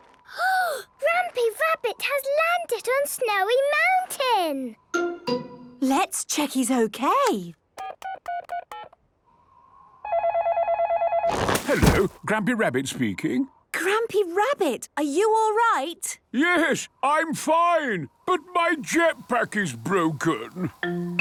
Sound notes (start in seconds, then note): 7.7 dial tones beeping; 10.1 phone ringing